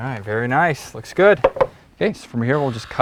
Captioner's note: saw whining